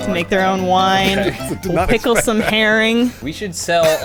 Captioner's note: laughing